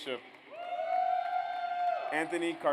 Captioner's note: audience cheers